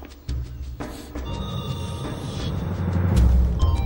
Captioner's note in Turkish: Telefon çalıyor